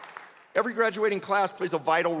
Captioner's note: applause